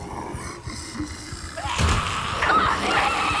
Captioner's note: loud roar